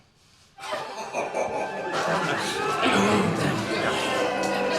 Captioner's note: everyone cheering